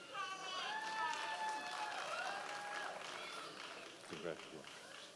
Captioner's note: members of the audience cheering